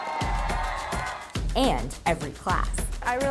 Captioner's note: students cheering